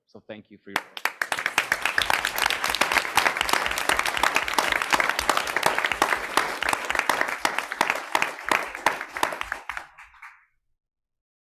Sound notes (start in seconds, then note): 1.7 audience clapping